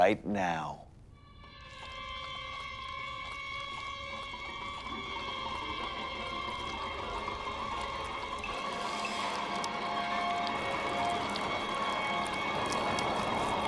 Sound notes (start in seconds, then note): 0.1 foreboding music; 6.6 faint crunching growing louder